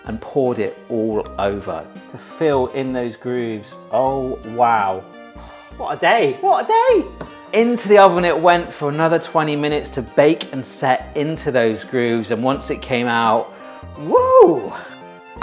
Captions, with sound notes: and poured it all over to fill in those grooves. Oh wow, what a day, what a day! Into the oven it went for another 20 minutes to bake and set into those grooves. And once it came out, (cheers).